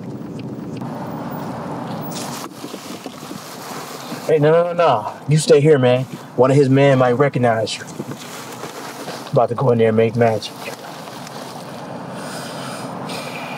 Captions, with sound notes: Hey, no, no, no, no, you stay here man. One of his men might recognize you. I'm about to go in there and make magic. (sighs)